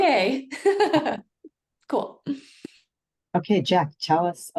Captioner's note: laughs